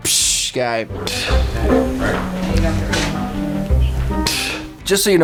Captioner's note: blowing air out of lips